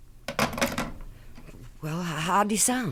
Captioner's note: phone hangs up